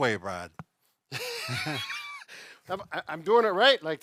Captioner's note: both laugh